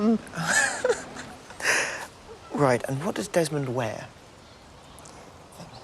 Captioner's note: laughing